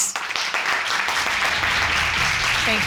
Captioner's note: audience applauding